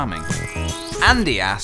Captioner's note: slurp